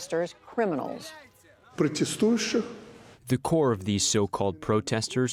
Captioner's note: through translator